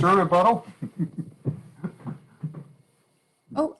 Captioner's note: laughter